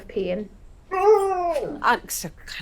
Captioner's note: Rosco whining